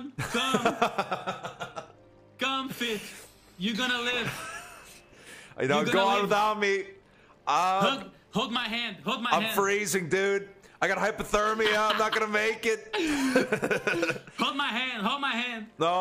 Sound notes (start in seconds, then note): 0.1 laughs; 5.0 laughs; 11.5 laughing; 11.5 laughs